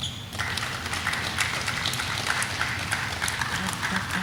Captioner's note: audience applauding